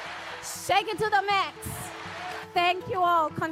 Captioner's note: cheers and applause